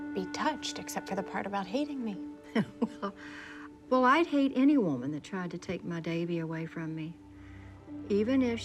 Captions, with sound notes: I'D BE TOUCHED EXCEPT FOR THE PART ABOUT HATING ME. [LAUGHS]: YEAH, WELL... WELL, I'D HATE ANY WOMAN THAT TRIED TO TAKE MY DAVIE AWAY FROM ME,